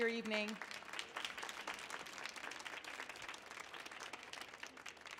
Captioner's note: audience applauding